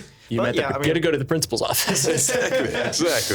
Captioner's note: laughing